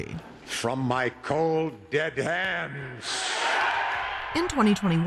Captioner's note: crowd cheering